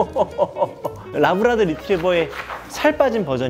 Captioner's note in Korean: 파바바바박